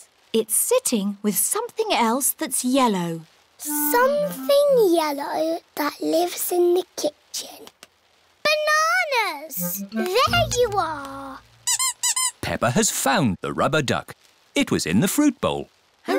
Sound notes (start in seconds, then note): 11.5 squeaking